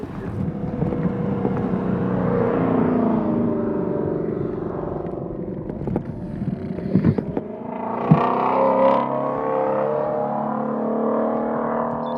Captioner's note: laughing; hot rod passing